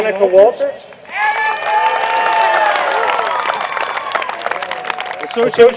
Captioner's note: cheering